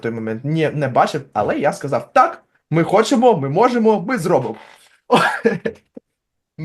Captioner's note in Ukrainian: сміється